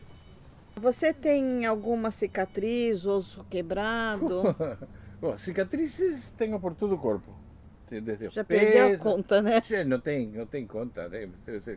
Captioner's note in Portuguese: risos